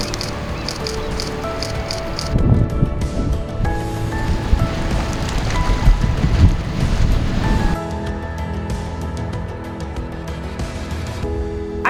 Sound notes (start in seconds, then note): 0.0 camera clicking noises; 0.2 background music; 2.3 noise of wind and waves; 7.8 background music